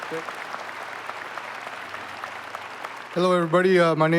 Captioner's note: applause